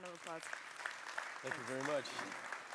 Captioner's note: applause